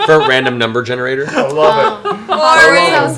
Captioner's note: laughs